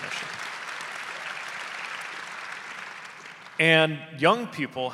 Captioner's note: audience applauding